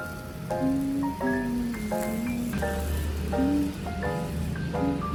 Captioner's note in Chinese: 哼起歌來～